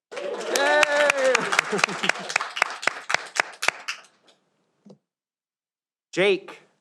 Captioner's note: audience applauding